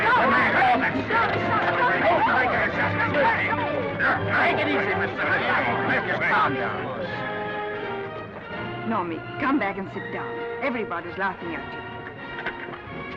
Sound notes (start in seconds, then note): 2.0 men yelling; 7.5 orchestral music